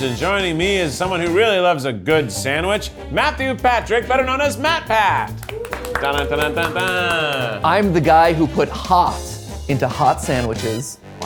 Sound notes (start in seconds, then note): 5.2 clapping; 5.5 crew cheering